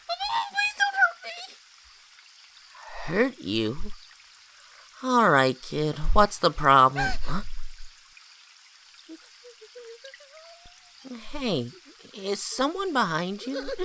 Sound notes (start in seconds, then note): 7.0 gasps